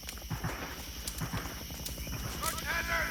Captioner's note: frogs croaking; distant gunfire